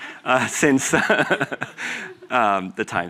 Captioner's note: laughter